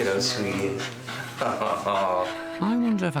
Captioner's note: laughs